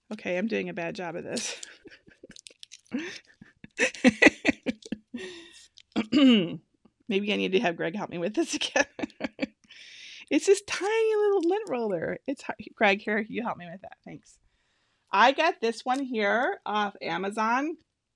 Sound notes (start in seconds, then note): 2.8 laughing; 3.1 paper peeling; 8.4 laughing